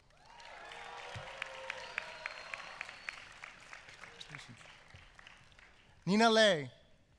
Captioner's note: applause